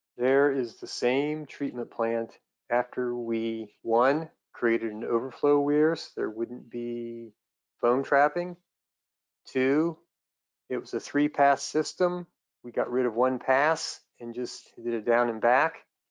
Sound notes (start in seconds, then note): none